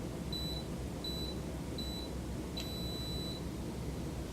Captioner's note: machine beeps